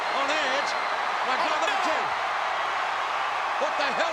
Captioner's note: audience cheering